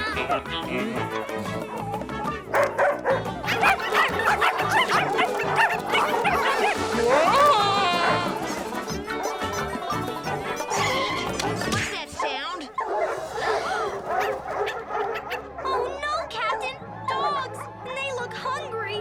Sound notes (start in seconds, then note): 1.0 cat yowls; 2.5 dog barking; 5.8 dogs barking; 9.5 costumes squeaking; 13.0 all gasp; 13.0 dogs barking